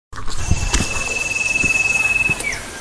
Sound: footsteps

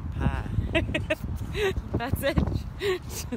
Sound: laughing

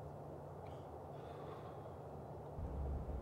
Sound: smoking exhale

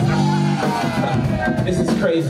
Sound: audience laughing

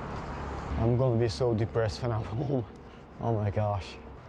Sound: laughs

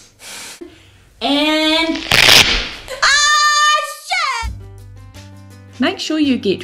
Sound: rips of strip

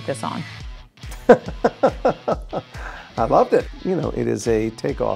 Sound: laughs

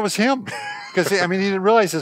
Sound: laughs

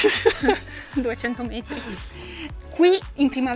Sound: laughing

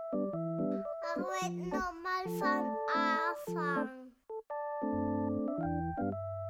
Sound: child speaking in foreign language

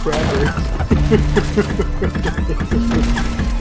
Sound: laugh

